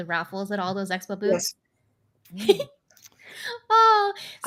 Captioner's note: giggles